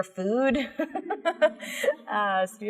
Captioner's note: laughs